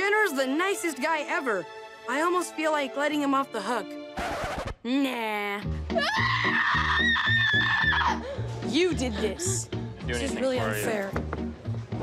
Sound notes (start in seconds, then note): 4.2 needle scratches; 5.9 shrieking